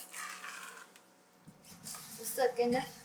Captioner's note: stirring mixture